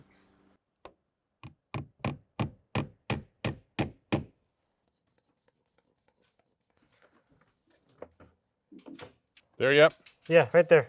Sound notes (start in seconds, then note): 1.4 hammer knocking